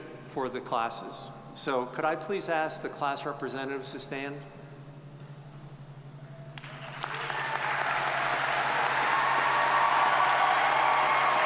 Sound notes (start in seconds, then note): 6.5 audience applauding